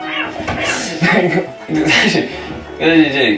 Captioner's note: laughter malfunction